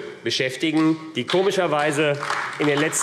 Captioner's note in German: Beifall AfD